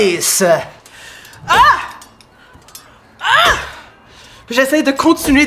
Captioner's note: Lys shouts